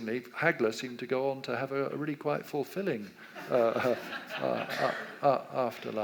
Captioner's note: audience laughs